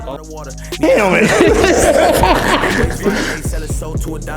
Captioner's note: both laughing